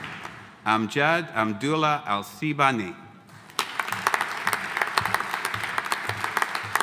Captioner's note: audience applauding